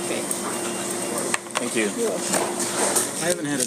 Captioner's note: tray hits table